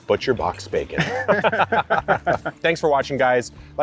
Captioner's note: both laughing